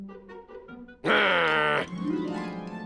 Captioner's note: growls